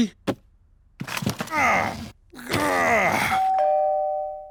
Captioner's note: groans; doorbell rings